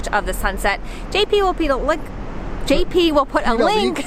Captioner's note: laughing